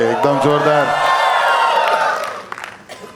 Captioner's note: crowd applauding